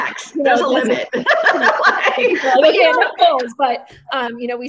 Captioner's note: laughing